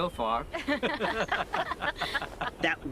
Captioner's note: laughing